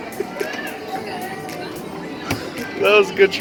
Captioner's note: laughs